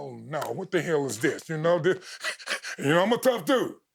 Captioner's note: chuckling